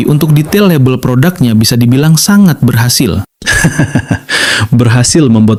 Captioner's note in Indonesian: tertawa